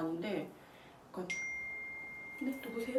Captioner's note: sound of a text message